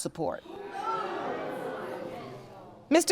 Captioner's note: audience gasps